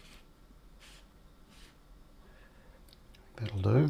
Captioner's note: silence